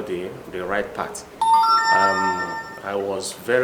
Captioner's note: phone chimes